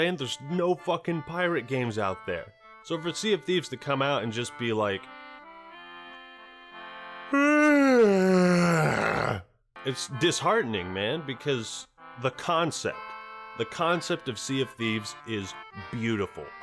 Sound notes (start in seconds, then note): 7.3 yawn